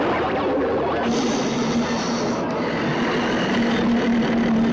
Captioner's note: monster roars